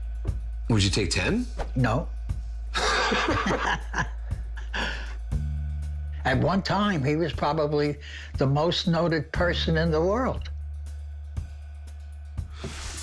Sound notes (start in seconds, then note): 2.7 both laugh; 4.0 tense music